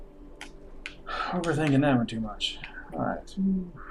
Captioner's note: sighing